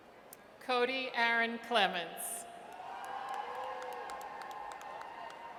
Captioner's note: audience cheers